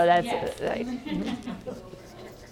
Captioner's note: laugh